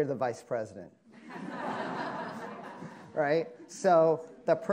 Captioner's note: attendees laughing